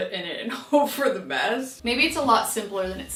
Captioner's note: laughing